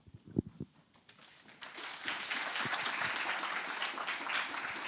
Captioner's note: applause